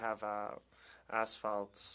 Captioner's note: speaking French